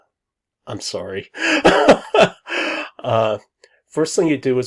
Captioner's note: laughs